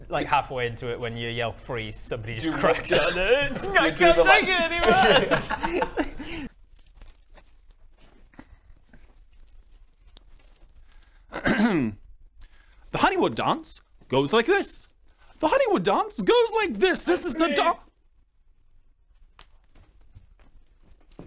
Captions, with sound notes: Like halfway into when you yell freeze somebody just cracks *cries* I can't take it anymore! *shuffling* Hm-hmm The Honeywood dance goes like this The Honeywood dance goes like this! - This is the dance - AND FREEZE!